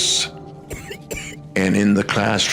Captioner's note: child coughs